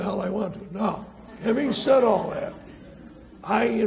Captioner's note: audience laughs